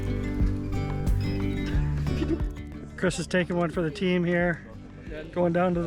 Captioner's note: laughs